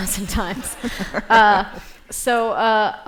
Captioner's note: laughter